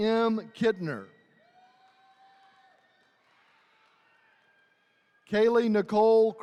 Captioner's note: attendees cheering